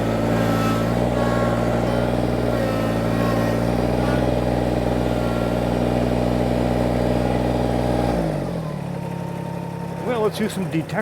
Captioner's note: tractor Engine